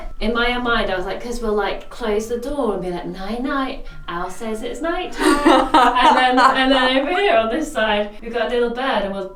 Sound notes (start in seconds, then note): 5.1 laughs